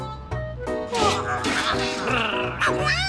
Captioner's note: yawns